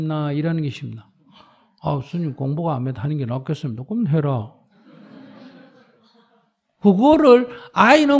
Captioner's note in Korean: 청중 웃음